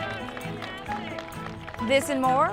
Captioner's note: cheers